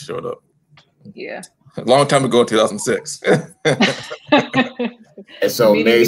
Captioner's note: laughter